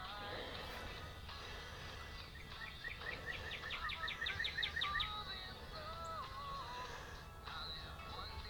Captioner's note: cardinal Sings